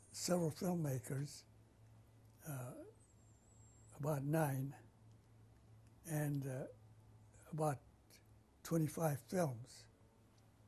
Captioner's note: pauses for 3 seconds